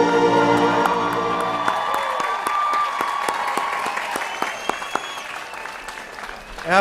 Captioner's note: applause